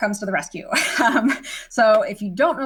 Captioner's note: instructor laughing